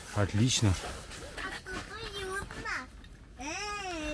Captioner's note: child's voice